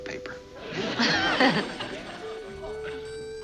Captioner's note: laughs